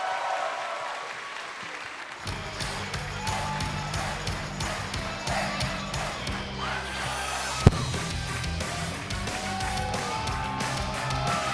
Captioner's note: cheers and applause